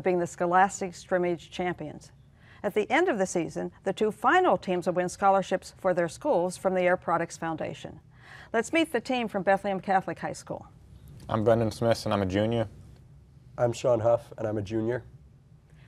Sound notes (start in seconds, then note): none